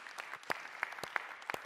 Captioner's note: applause